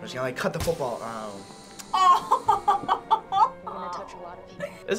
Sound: laughs

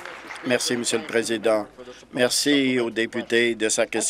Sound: applause

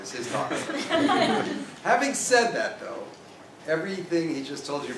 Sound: laugh

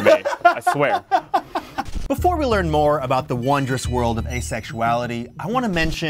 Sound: laughs

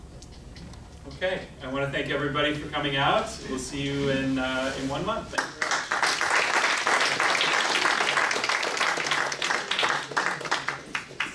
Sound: clapping

